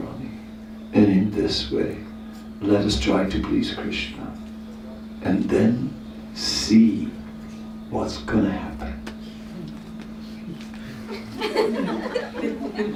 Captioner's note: laughter